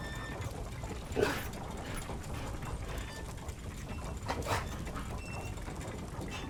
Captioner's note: growling